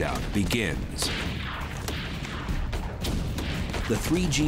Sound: gunshots

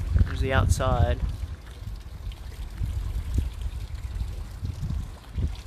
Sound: splash

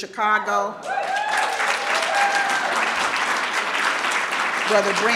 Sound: audience cheering

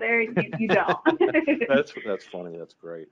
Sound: both laughing

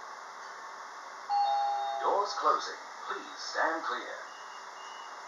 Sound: doorbell

